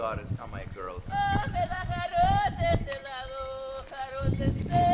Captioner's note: chanting in greek